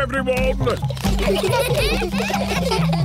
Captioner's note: children giggling